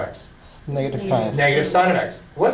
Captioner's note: voiceover